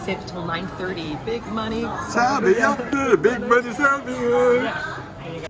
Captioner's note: speaking Japanese